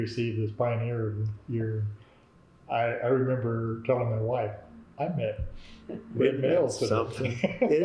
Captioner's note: laughter